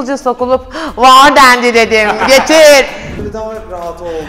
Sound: laughs

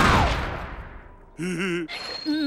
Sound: giggling

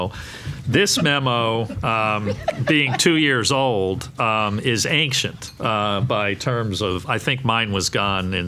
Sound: laughing

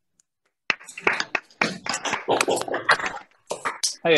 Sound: hands clapping

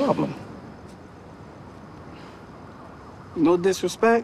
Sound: sirens wailing

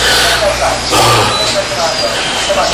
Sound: exhales

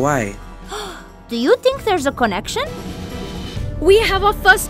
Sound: gasps

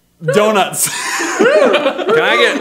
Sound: laughs

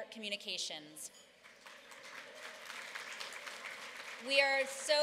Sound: applause

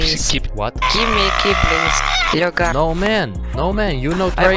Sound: Russian

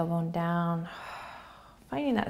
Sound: exhaling

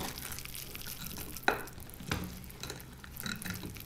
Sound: squishing intensifies

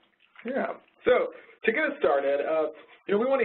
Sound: voiceover

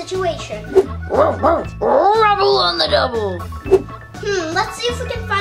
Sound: dog barking

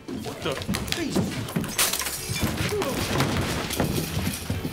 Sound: glass shattering

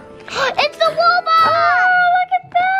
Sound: gasps

